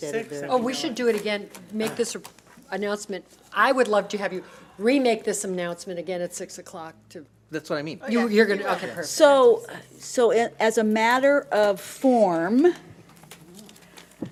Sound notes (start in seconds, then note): none